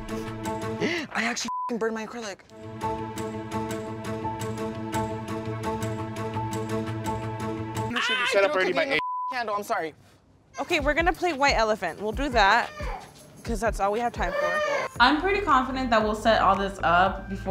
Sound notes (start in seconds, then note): 1.4 beep; 2.6 upbeat music; 7.9 scream